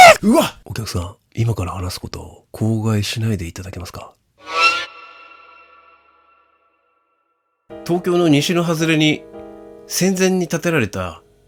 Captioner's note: shouting